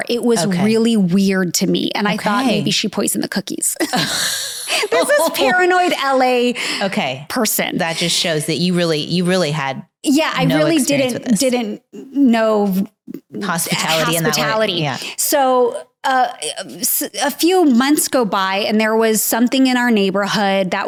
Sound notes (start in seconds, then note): 3.8 laughing